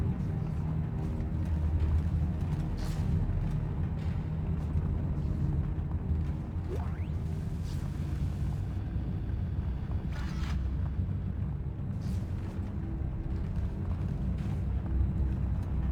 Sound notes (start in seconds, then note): none